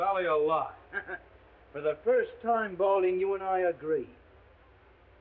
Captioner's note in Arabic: يسخر